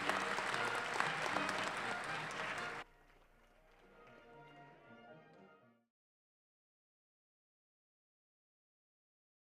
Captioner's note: applause